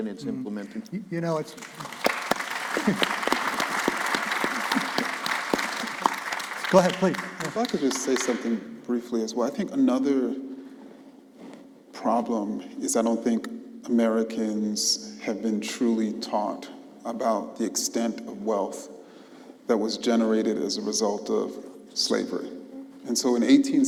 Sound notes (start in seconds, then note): 3.6 applause